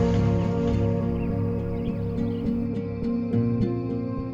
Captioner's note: birds chirp